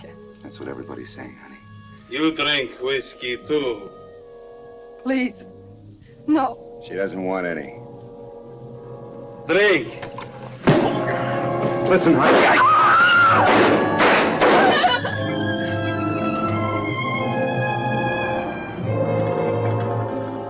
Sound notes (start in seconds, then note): 10.2 fist thuds; 12.4 Carla screaming; 13.3 gun firing; 14.6 Carla crying; 14.9 dramatic music